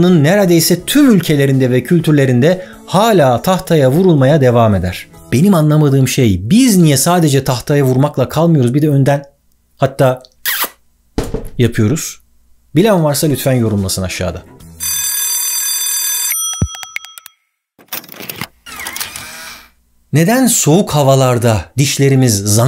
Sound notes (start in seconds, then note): 11.1 mmm sound then the sound of the impact on the board